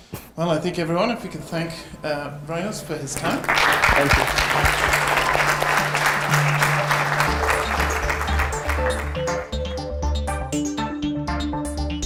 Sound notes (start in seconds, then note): 3.2 audience applauding; 9.2 techno music